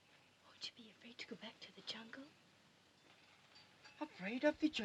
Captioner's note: whispers